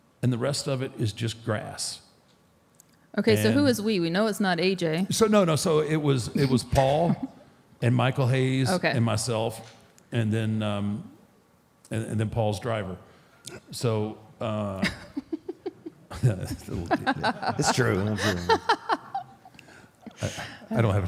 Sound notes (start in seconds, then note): 14.8 Michelle laughs; 20.0 laughs